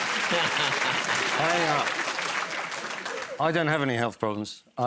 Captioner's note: applause; laughs